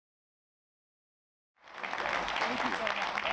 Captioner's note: applause